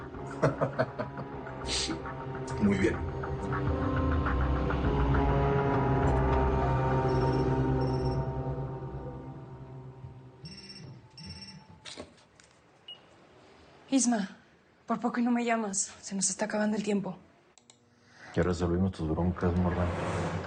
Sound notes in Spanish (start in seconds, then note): 7.5 Suena un celular